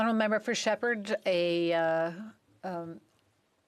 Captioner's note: speaking French